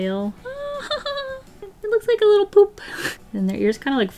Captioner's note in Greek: Γέλια